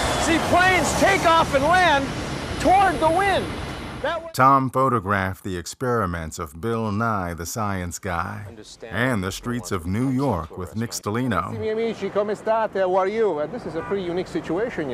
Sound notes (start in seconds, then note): 11.8 speaking Italian